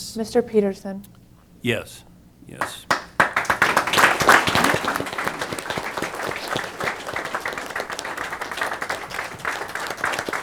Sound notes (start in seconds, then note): 2.6 applause